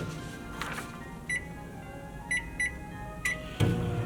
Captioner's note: microwave beeping